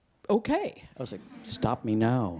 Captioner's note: audience laughs